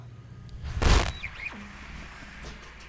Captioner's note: static